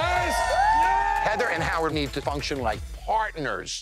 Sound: cheering

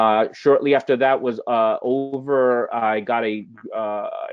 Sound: voice muffled

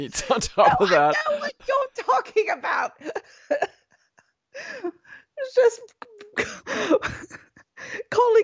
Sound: laughs

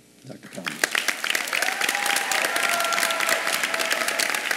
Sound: audience cheering

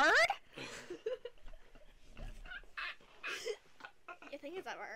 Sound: laughter

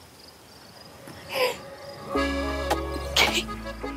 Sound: gasps

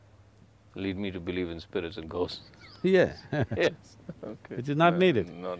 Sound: laughs

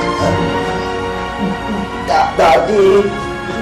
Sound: Emman stammers

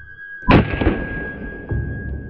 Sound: slow motion explosion

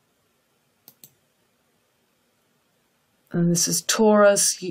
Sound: mouse clicks

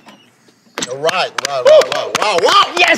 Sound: sound of clapping

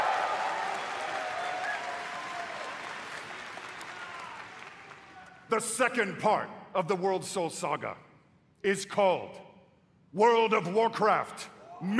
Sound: cheering

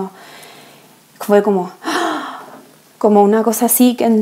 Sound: deep breath

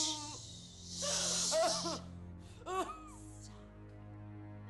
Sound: shushes; sobs

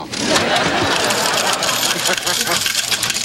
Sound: coins jingling

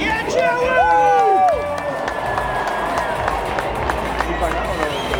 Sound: cheers

